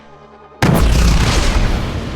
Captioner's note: tank fire